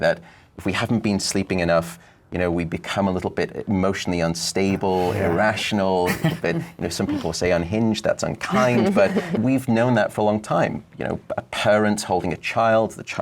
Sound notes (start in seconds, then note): 4.6 laughs